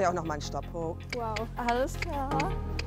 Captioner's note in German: Schnalzen